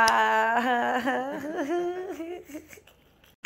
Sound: laughs

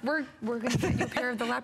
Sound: laughter

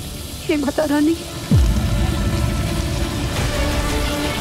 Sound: current flowing

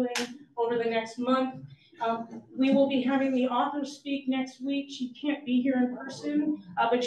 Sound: none

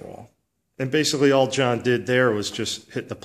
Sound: voiceover

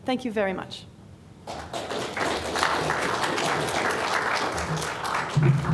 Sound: applause

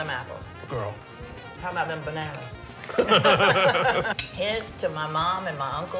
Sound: laughter

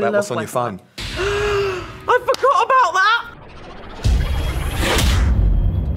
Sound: gasps

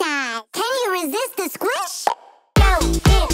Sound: popping

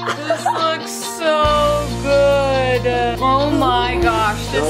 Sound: laughs

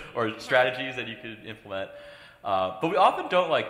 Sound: laughs

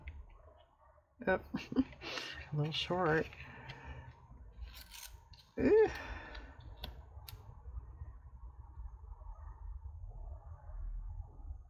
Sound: laughs

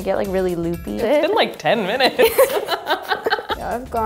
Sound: laughs

